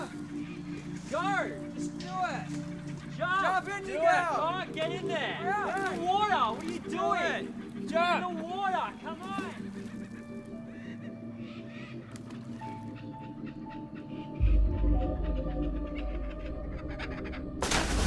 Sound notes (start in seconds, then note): 11.6 rocks splashing; 15.9 tense music